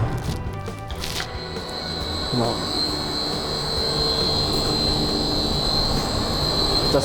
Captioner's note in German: laute Lüftergeräusche